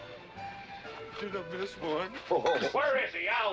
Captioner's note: laughing